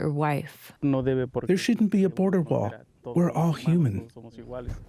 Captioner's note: through translator